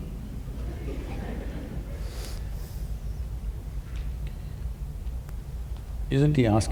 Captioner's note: laughter; laughs